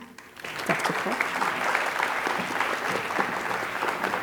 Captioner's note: applause